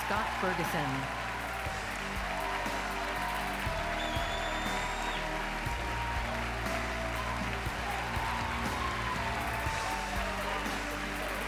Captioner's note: cheers and applause